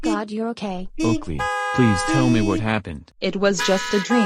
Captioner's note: car horn honking; car horns honking